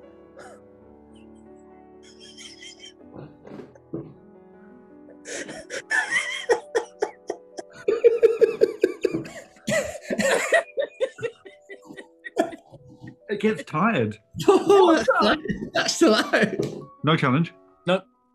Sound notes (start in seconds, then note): 2.4 giggling; 9.6 laughter